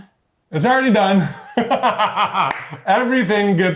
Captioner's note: laughs